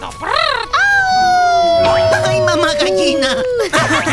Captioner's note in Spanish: Aullido